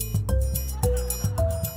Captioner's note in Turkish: Gülme efekti